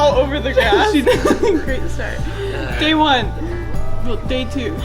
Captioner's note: laughing